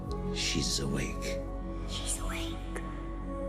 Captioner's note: whispers